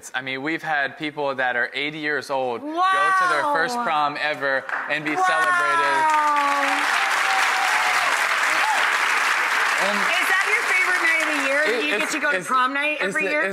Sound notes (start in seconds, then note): 6.5 applause; 6.5 audience cheers